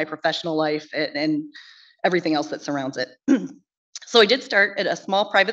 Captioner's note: clears throat